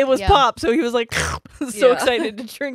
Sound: makes slurp sound

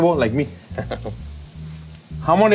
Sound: chuckles

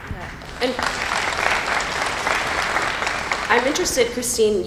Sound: applause

